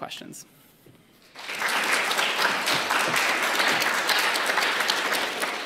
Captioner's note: applause